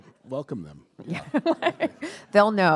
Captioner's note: laughing